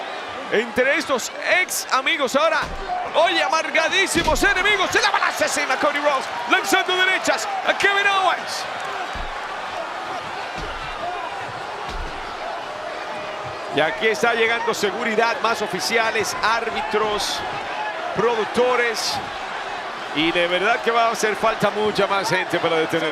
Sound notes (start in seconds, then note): 9.0 applause